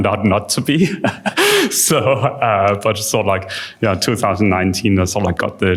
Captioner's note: chuckles